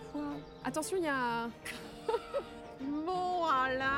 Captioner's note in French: rires